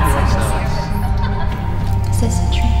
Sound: emma joyfully laughing

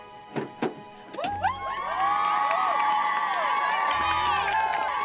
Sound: crowd cheering

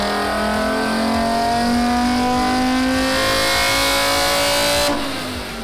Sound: engine revving continues

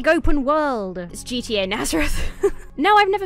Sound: chuckles

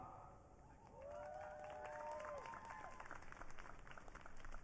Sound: audience cheering

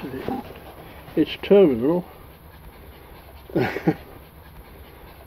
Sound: laugh

